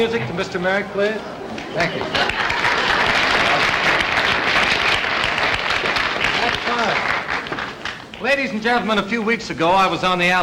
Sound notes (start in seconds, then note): 1.8 audience Applauding